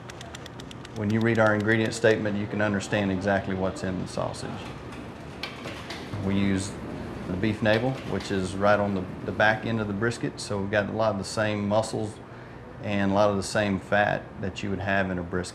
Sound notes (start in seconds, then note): none